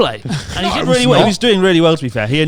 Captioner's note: chuckles